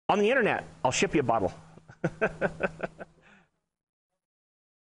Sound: laughing

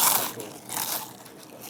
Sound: Crunch

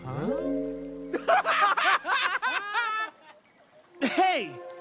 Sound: laughing

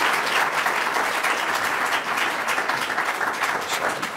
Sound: applause

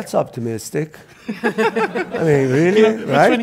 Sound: audience laughs

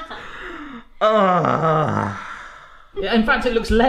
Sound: sighing; laughing

